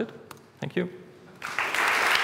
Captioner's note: applause